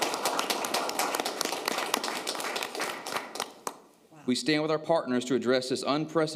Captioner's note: applause